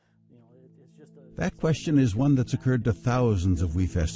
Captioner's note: voiceover